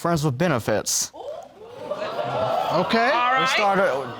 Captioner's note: audience exclaiming